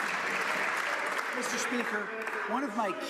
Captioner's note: some Applause